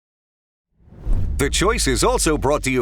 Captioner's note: air whooshing